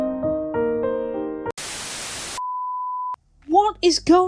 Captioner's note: sad music plays; static